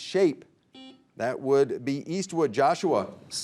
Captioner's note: buzzer beeping